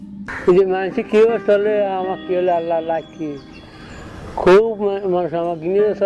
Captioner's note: speaking in foreign language